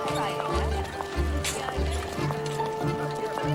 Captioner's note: indistinct chattering